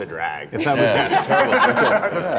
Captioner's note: laughter